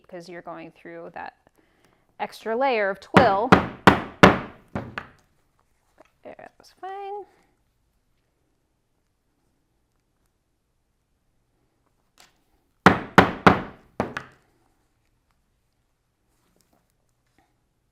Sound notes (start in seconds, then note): 12.9 mallet tapping